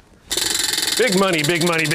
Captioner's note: wheel clicks